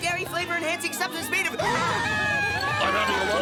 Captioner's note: gasps